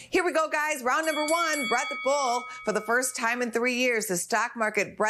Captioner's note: bell rings